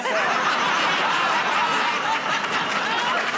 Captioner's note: laughter